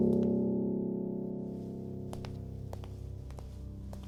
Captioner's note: footsteps